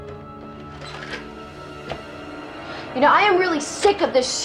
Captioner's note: clattering